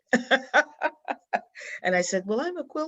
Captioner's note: laughs